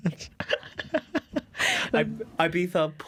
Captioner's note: laughter